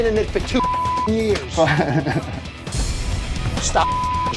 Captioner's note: laughs